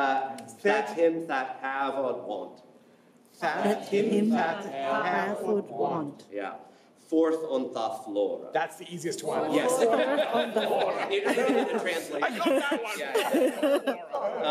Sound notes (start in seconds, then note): 2.1 non-english singing; 3.1 non-english speech; 6.6 non-english speech; 9.4 laughs